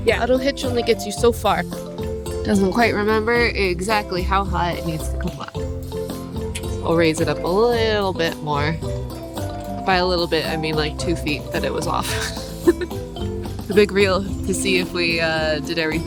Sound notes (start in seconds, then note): 12.0 laughs